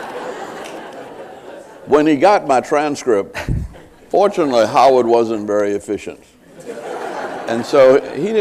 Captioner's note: laughter